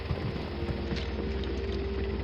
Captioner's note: helicopter whirring